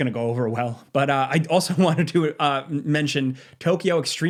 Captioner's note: chuckling